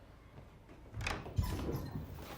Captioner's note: door opens